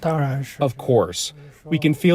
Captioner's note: speaking foreign language